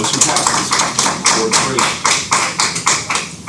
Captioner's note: clapping